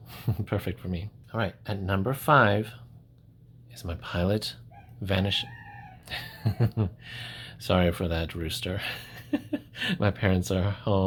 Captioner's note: rooster crowing